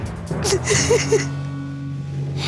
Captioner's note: sobbing